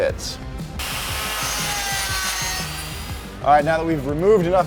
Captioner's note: metal grinding